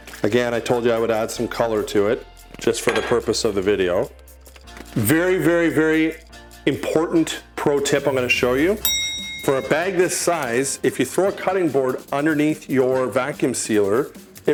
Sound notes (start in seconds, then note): 8.8 bell dings